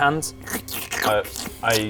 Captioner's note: slurp